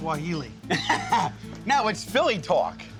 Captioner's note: laughs